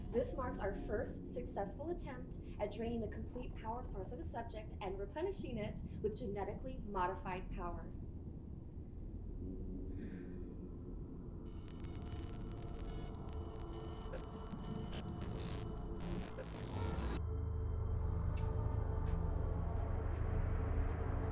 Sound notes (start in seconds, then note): 10.0 digital beeping and buzzing; 17.9 slow foreboding music